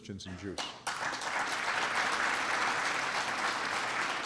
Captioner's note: applause